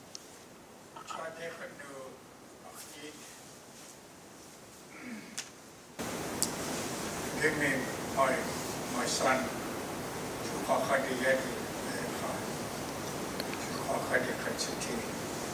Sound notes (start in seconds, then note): 1.9 speaking tlingit